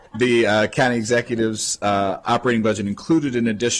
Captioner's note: laughter